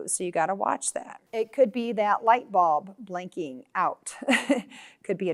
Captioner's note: chuckles